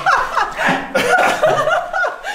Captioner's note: laughter